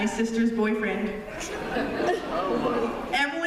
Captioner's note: laughter